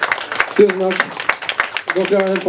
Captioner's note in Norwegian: applaus